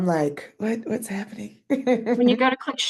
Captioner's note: laughing